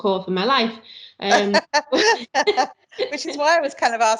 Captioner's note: light laughter